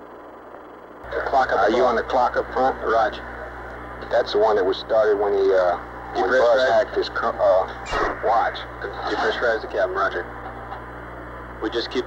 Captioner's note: mission Control Audio